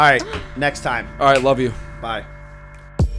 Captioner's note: laughter